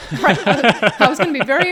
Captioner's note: all laughing